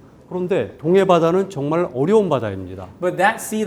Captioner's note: speaking in Korean